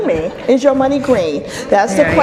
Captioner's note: audience laughs